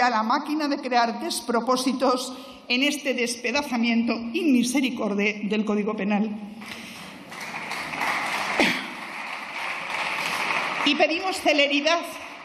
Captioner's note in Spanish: Aplausos